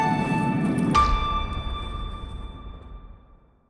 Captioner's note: air whooshing